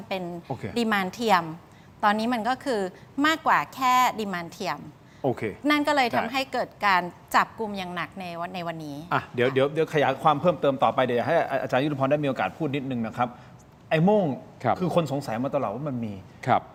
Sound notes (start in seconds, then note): none